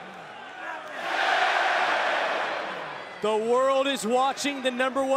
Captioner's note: crowd cheering